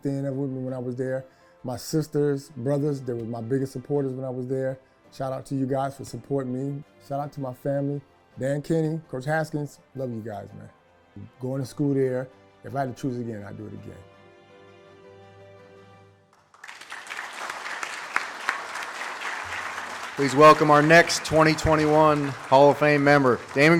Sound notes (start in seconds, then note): 14.6 dramatic music; 16.3 audience claps